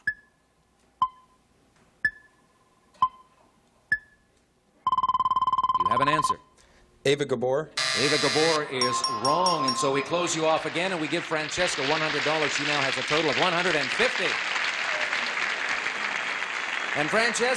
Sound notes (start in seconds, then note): 0.2 timer dinging; 7.8 buzzer; 14.4 applause